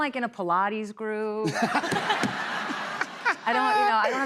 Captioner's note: laughter